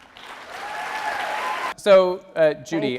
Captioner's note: audience cheering